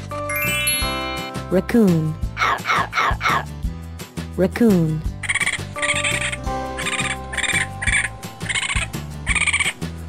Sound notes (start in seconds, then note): 2.3 raccoon sound